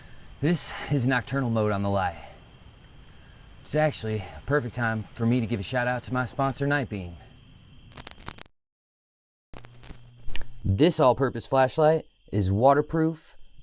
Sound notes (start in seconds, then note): 7.0 insects chittering; 7.8 light clicks